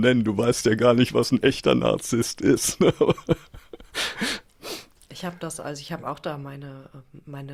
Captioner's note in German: gelächter; schnauben